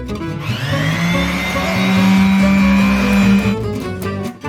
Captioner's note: buzzing; bluegrass music